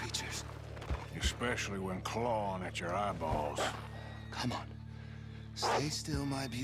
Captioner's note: he sees a nearby wolf barking at them